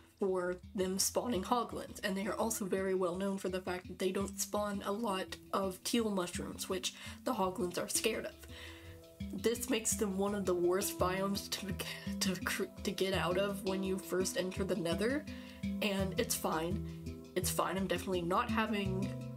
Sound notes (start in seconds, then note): none